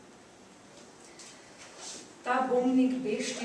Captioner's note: non-english speech